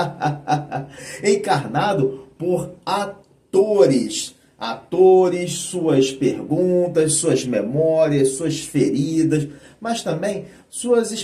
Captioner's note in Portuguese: risadas